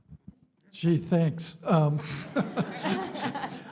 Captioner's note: laughter